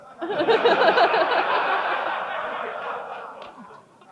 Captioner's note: crowd chuckles